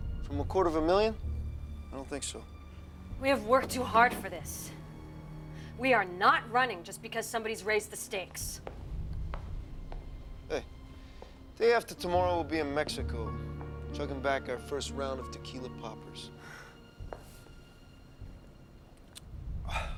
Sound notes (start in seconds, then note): 17.5 sighs